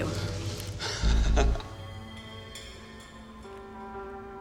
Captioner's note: laughs